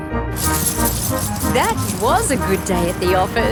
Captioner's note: coins jingling